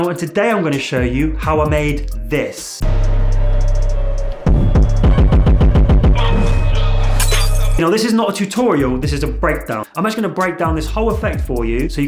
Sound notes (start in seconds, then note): 4.4 dramatic music; 6.5 glass shattering